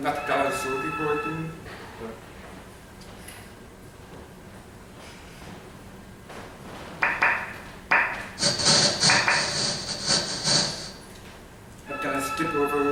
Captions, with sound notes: That slide should be showing. (ringing) (tapping noises) (cash register sounds) (ringing)